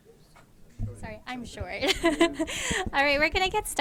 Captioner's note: laughs